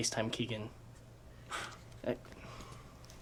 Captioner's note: sighs